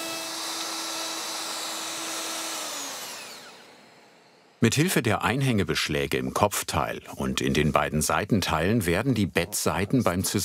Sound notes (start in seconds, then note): 2.4 whirring stops